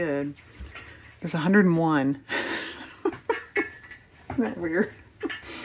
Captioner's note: laughs